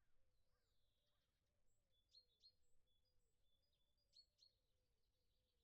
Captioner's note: birds